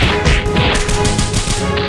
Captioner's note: punching